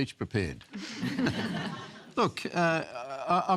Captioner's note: laughter